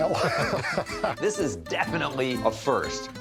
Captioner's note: pat